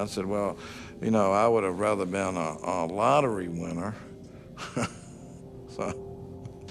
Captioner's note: laughs